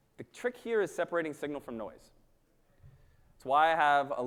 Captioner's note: none